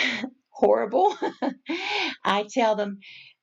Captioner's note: chuckles